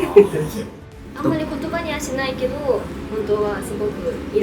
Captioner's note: laughs